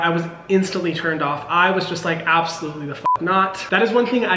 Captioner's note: beep